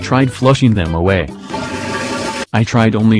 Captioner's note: toliet Flushing